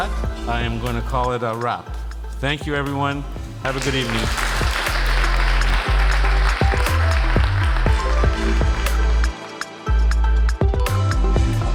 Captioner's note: audience Applauding